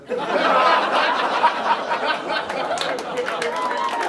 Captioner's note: audience laughing; audience clapping and cheering